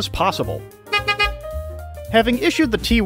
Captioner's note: honk honk